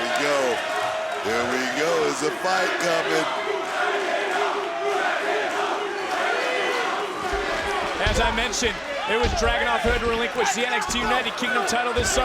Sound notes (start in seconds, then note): 3.9 crowd barks, chants "Dragunov"